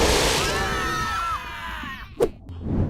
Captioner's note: roar; screams